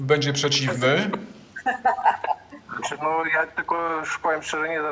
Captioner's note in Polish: śmiech